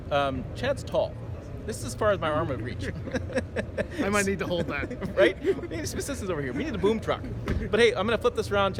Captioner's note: laughs